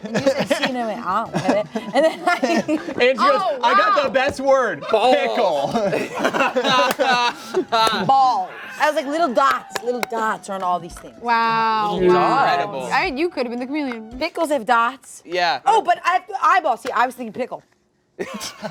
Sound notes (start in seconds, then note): 4.8 laughs